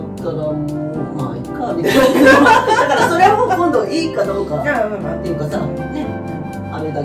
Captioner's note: laughs